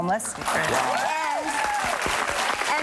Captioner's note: audience applauding